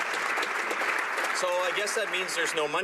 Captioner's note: some Applause